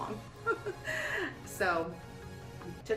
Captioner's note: giggling